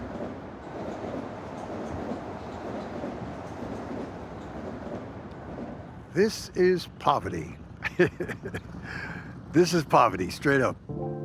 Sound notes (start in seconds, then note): 7.8 chuckles